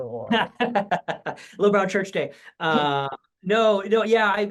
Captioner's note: laughter